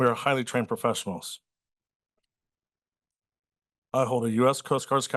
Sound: pause

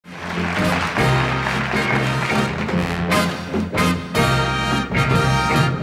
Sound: audience applauding; upbeat music

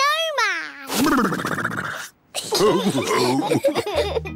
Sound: giggles; all laughing

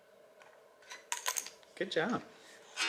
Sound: object clatters

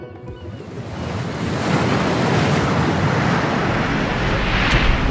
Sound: water splashing

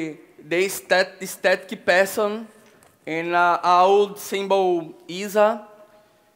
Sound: speaking Portuguese

